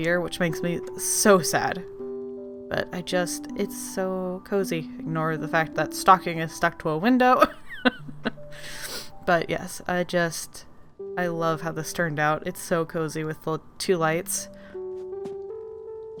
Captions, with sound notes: Which makes me so sad! But I just it's so cozy. Ignore the fact that stalking is stuck to a window *laughs* But yes I just... I love how this turned out. It's so cozy with the two lights.